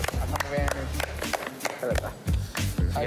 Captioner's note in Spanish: aplauden